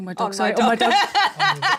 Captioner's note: laughing